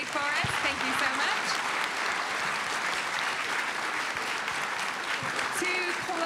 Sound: audience applauding

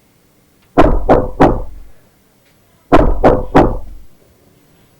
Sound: knocking on the door

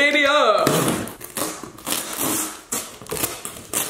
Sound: tape ripping

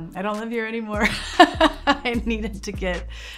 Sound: laughs

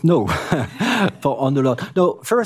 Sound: speaking french

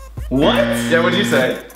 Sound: loudly buzzing

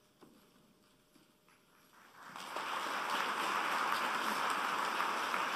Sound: applause

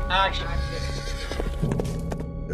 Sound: horse whinnies

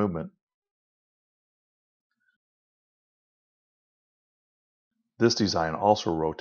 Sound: silence

